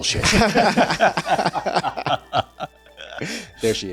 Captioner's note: laughing